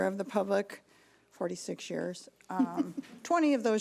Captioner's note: laughing